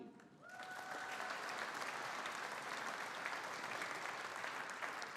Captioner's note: audience applauding